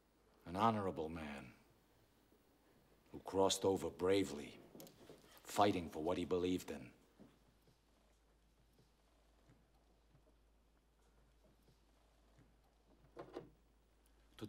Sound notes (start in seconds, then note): none